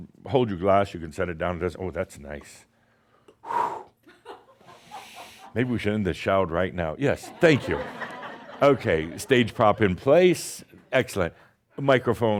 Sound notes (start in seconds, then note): 8.3 some chuckles